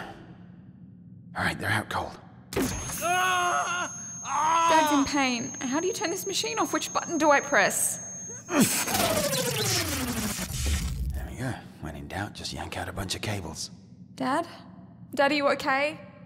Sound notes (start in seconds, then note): 2.6 machine whines, Anderton screams; 8.2 pulling cables, machine winds down